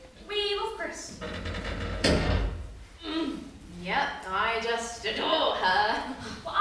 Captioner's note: another creak overhead